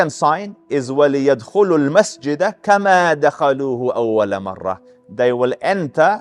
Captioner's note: Arabic